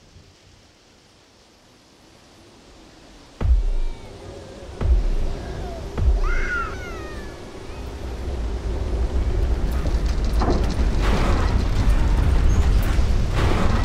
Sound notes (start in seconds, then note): 0.3 rain; 4.6 cellar door slams as children cry